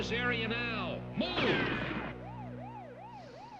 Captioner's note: siren; gunshot